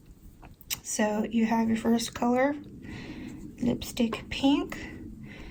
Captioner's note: tongue click